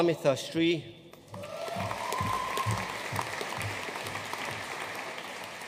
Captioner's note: audience cheering and applauding